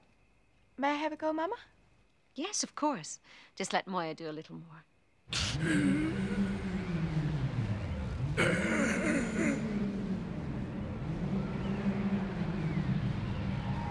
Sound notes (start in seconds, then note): 4.8 buzzing; 8.4 grunting; 10.2 buzzing